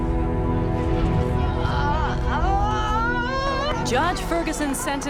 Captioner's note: cries